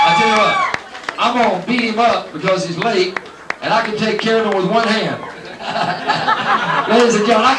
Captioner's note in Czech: Potlesk